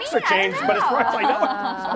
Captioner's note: laughter